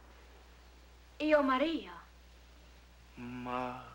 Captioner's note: speaks in Italian